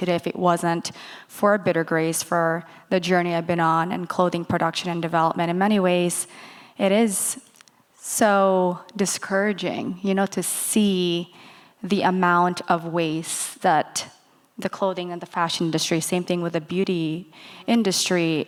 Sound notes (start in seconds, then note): none